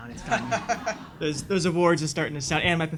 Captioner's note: audience laughs